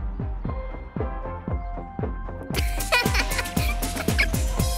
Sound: laughter

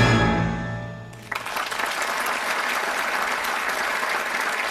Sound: audience applauding

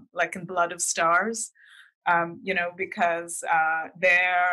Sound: none

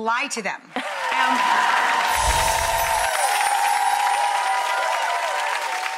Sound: audience cheering and clapping

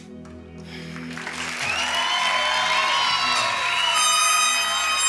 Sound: congregation applauding

